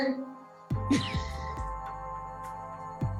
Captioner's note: chuckles